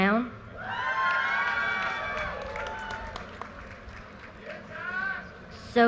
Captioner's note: audience cheers and applause